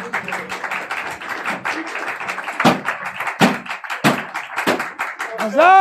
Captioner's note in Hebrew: מחיאות כפיים